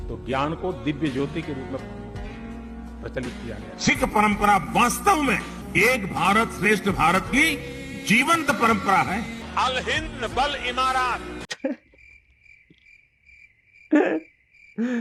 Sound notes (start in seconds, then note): 9.6 foreign Language